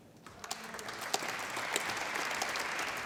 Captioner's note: applause